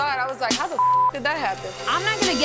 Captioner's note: beep